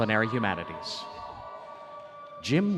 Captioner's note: audience cheering